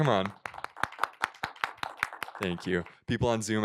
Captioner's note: applause